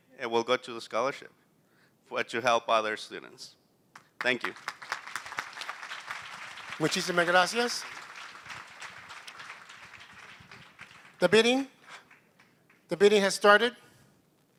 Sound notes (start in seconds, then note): 4.8 applause; 6.7 non-english speech